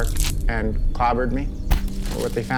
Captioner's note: thud